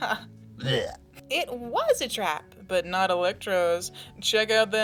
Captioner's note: coughs